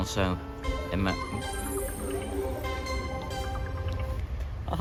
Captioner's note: defualt motorola ringtone